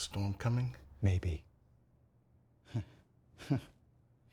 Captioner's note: chuckles